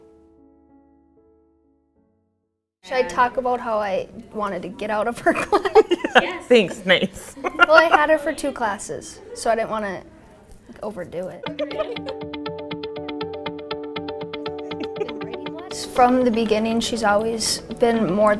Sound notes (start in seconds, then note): 5.4 both laugh; 7.2 laughs; 11.4 upbeat pop music